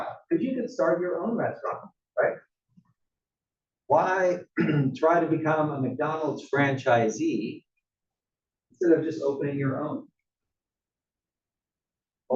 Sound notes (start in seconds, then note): 4.4 cough